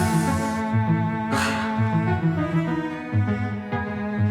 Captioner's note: sighs